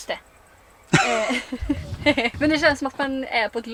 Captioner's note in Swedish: Skrattar